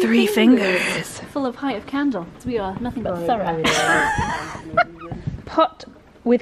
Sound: laughter

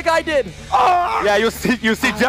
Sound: screams

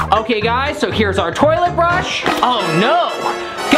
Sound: suspense sound effect

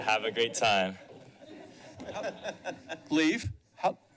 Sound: laughter

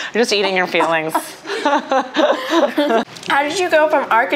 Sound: laughs

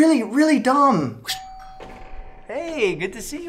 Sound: doorbell rings

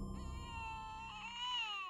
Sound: baby fussing over monitor

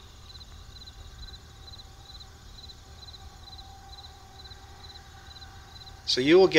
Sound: pause

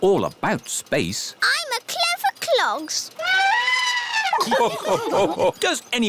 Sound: trumpets; all laugh

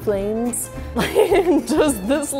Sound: laughs

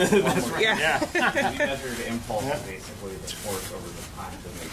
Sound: laughter

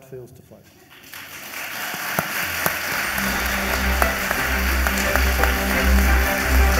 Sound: audience applauds; bright music

